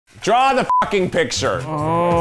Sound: beep

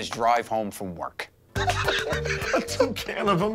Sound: laughter

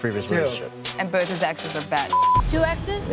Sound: beep

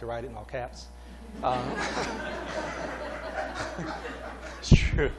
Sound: laughter

